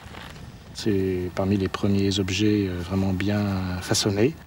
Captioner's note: French spoken audio